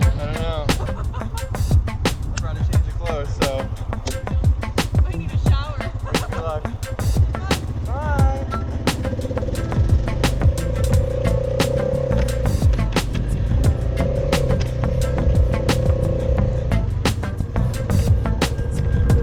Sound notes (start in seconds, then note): 0.6 laughter; 5.6 laughs; 9.5 upbeat music; 11.5 ATV engine hums